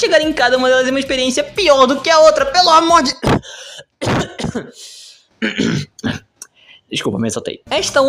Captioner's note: clearing throat